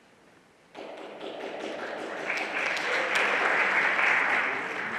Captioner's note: everyone applauding